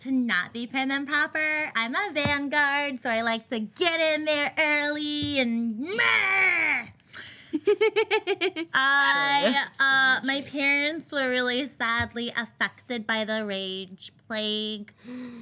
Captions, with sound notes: to not be prim and proper. I'm a Vanguard, so I like to get in there early and murder! (giggling) My parents were really sadly affected by the Rage Plague,